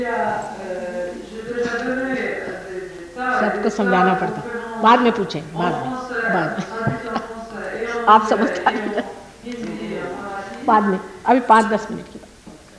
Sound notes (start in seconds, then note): 1.2 speaks Indian